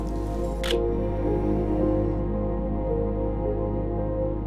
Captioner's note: camera clicks